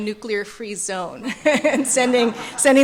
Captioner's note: laughter